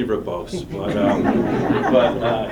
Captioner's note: laughter